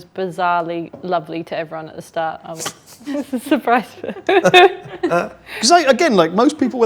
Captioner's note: laughs